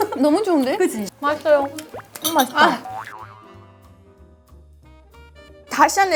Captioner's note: quietly but steadily sipping